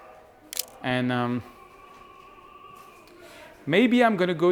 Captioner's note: camera shutter clicks